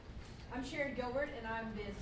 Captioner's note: voiceover